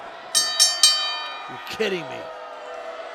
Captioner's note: bell rings